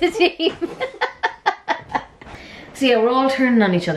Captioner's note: laughing